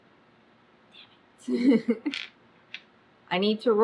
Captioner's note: laughs